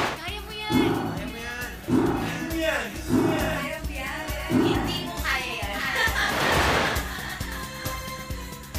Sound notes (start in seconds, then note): 5.7 laughs